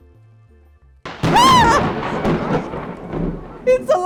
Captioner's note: thunderclap